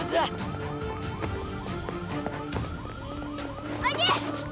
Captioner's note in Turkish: Alarm Çalıyor